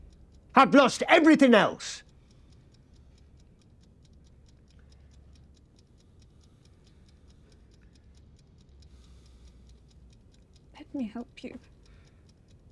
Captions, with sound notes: I've lost everything else! (timer ticks) - Let me help you.